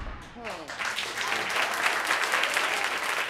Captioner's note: audience clapping